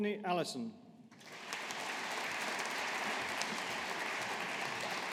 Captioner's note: audience applauding